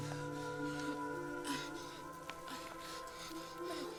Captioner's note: Freyja gasping